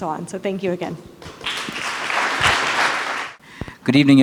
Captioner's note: applause